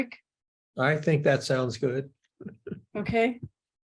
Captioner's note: laughs